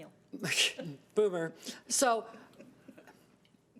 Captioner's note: chuckling